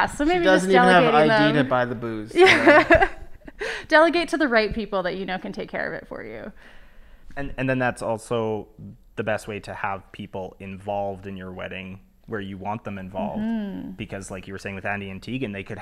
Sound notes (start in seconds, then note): 2.5 laugh